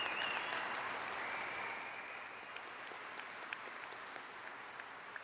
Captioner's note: applause; cheers and applause